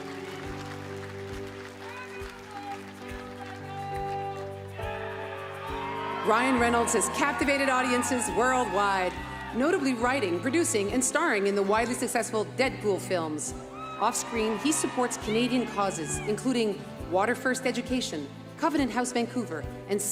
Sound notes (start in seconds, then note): 0.0 applause